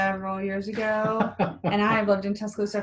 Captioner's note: laughs